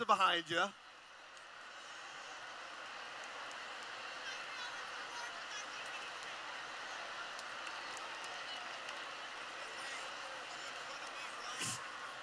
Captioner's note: chatter